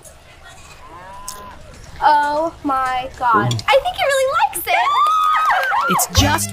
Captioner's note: girls cheer